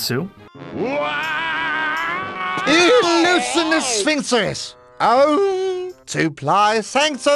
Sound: screams

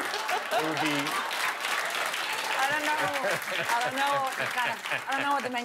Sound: laughter

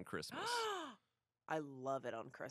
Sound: gasps

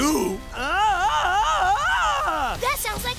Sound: screaming

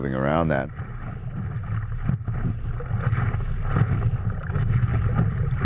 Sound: underwater sound effect

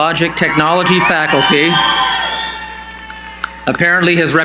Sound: cheering

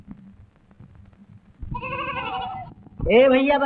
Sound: goat bleats

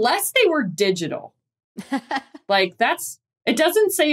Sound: laughs

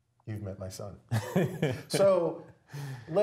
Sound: laugh

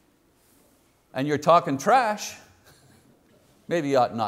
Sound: chuckles

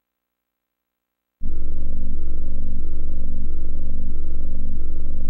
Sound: 32-bit console startup sounds

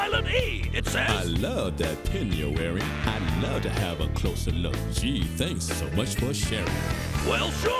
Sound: reading letter aloud

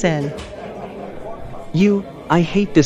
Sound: distant chattering

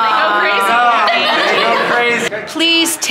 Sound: bartenders laughing

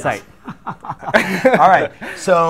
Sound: laughter

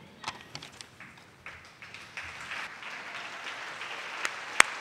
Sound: audience claps

